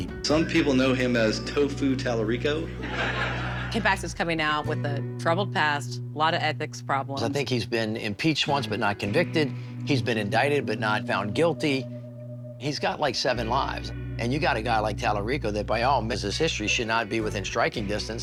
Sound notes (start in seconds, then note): 2.4 crowd laughing